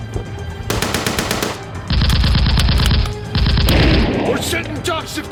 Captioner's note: gunfire rattling